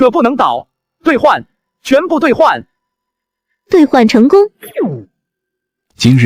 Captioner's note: system chime